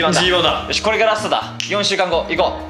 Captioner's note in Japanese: 指を鳴らす